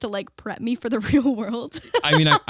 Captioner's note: laughing